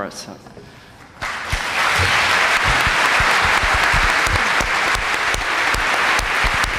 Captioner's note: applause